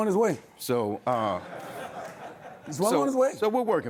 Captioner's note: audience laughs